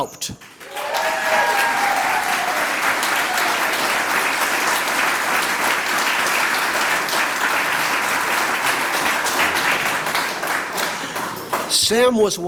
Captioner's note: applause